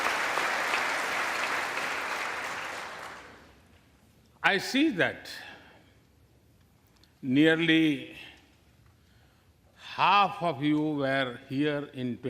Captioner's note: applause